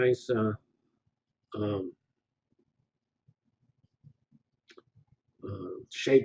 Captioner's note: pause